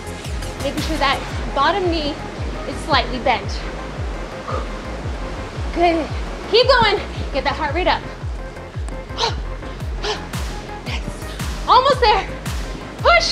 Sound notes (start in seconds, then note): 9.0 breathing heavily